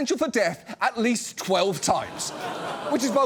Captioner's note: audience groans, laughs